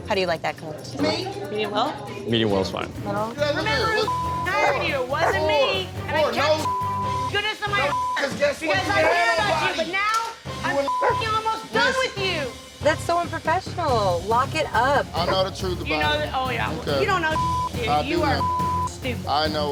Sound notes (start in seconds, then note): 3.8 beep; 6.1 dog barking; 6.5 beep; 17.2 beep